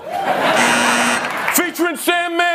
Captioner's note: buzzer buzzes; audience laughs